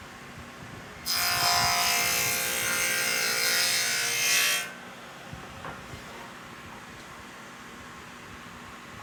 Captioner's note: saw Noise